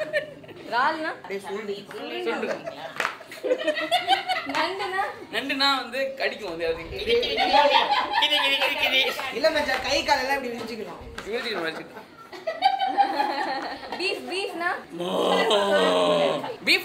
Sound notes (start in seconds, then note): 3.3 laughs